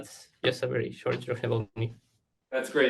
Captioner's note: audio blurs